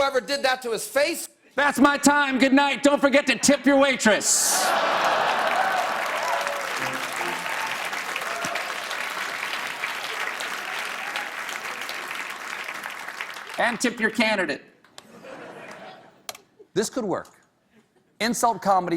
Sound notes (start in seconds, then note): 4.6 applause